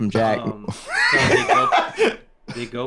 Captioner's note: laughs